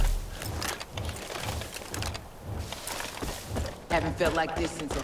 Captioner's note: gunshots